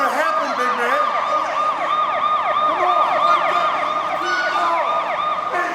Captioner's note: police sirens wailing